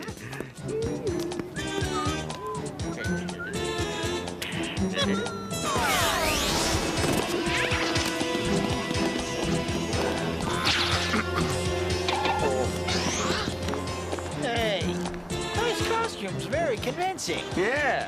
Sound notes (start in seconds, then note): 0.6 humming; 0.6 whistling; 11.0 clears throat